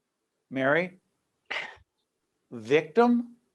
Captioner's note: scoffs